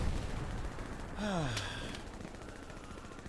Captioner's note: sighs